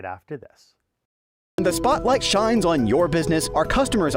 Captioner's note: voice-over